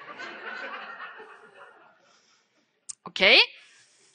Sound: audience laughing

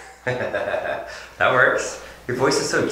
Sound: laughing

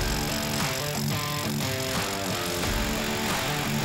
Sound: machines whir

